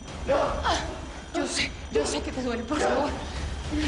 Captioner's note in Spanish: Quejidos